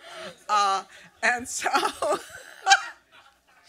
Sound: laughs

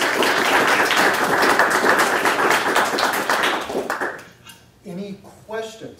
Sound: applause

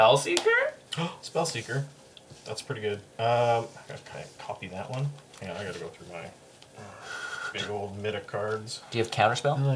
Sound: gasp

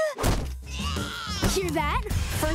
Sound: crying

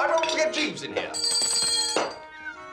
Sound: rings the table bell

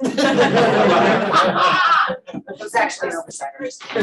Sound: audience laughing

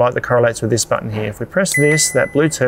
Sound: fridge beeps

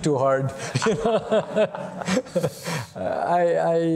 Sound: laughter

